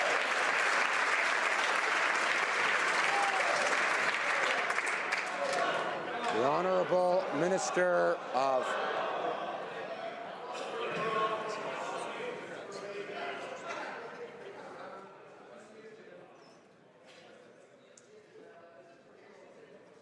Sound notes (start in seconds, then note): 3.0 some Applause